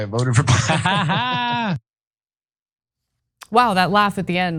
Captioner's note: laugh